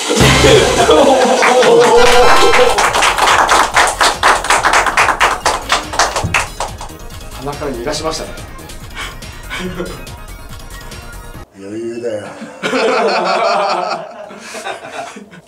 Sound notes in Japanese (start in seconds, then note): 0.5 笑い; 1.9 ファンファーレの音; 2.7 拍手の音; 12.3 笑い